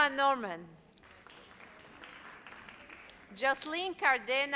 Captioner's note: audience applauds